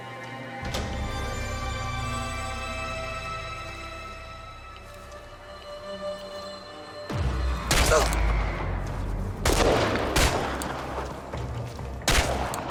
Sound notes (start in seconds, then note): 0.1 suspenseful music; 7.9 gunshots firing